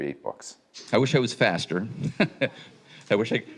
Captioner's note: chuckles